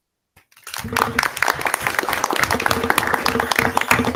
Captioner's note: audience applauding